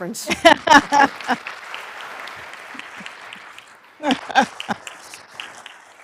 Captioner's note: applause; laughs